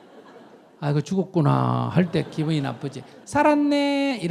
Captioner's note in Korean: 청중 웃음